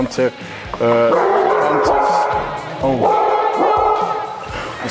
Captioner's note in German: Hundegebell